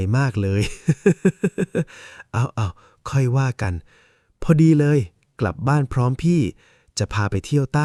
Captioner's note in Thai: เสียงหัวเราะ